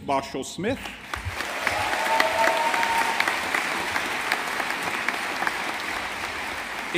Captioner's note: audience applauding